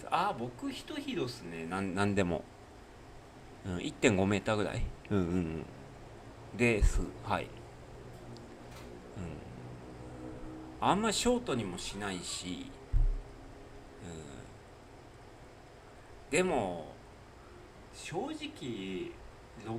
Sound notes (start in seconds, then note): 12.8 snort